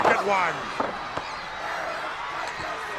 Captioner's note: crowd yelling